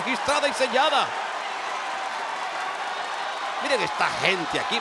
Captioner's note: applause